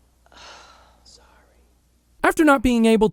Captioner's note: whispers